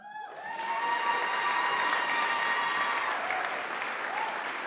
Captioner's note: audience applauding